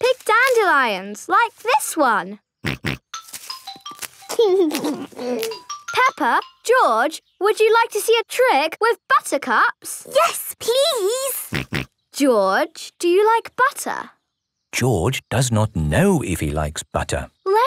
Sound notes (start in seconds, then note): 2.8 snorting; 4.4 giggling; 11.5 snorting